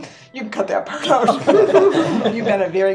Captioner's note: laughs